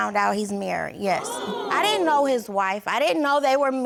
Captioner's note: audience gasps